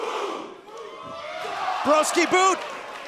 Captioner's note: fans chanting